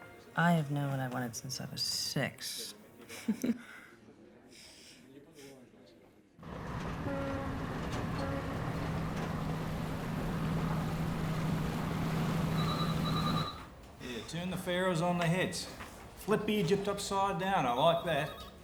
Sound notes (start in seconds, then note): 3.1 laughs; 7.0 boat horn